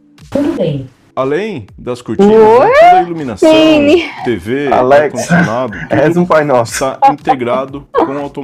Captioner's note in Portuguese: limpando a garganta